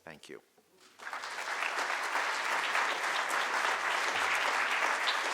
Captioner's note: audience applauding